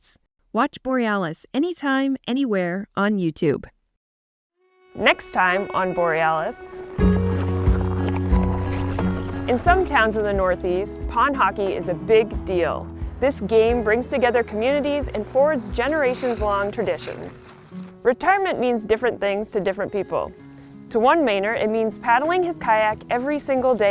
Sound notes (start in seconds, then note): 6.8 gentle music; 7.2 skates scraping